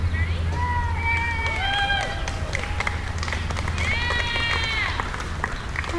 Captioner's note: people applauding